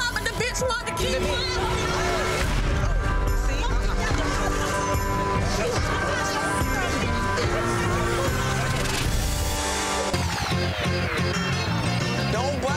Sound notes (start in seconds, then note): 2.6 dramatic music; 5.1 shouting; 10.3 upbeat music